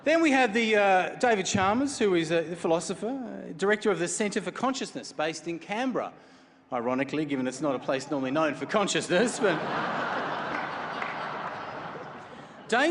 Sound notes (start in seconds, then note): 9.0 chuckles; 10.8 laughter